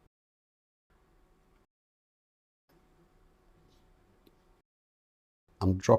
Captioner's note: silence